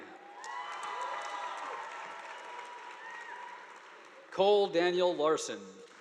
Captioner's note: audience applauding